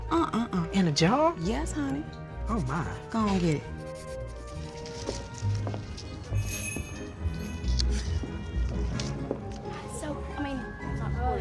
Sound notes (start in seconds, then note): 6.3 door bell jingles; 10.2 chattering